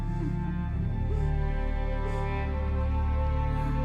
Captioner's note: sobbing